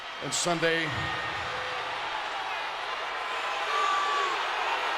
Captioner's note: crowd exclaiming